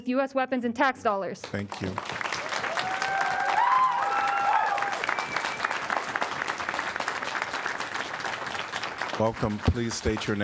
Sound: applause

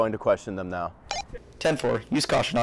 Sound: radio beeps

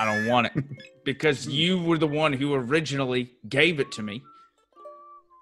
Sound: laugh

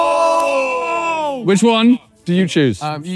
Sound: both cheering

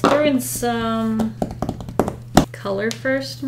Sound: fingers tapping on desk

